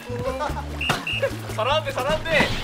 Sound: smashing

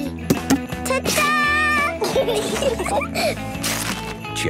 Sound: laughter

